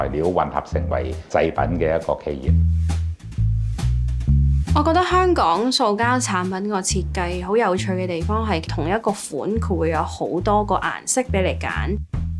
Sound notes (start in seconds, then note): 5.3 Cantonese